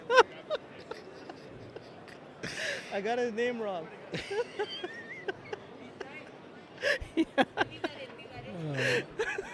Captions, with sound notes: [More Uncontrollable Laughter] I got his name wrong